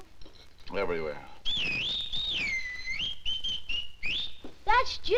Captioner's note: Jimmy whistling